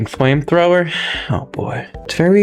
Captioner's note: inhales Oxygen